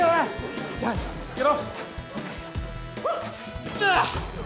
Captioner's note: grunts